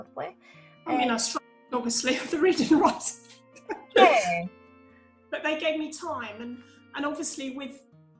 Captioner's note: laughs